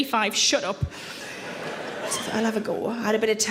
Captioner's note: audience laughing